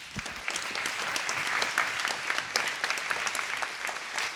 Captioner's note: applause